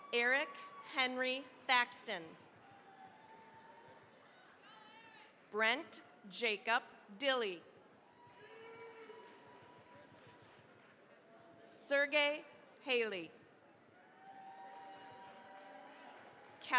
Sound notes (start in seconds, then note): 2.4 cheering, applause; 8.0 cheering, applause; 13.9 cheering, applause